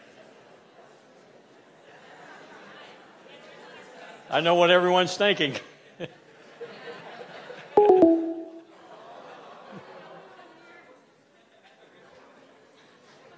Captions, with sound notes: I know what everyone's thinking. (computer chiming)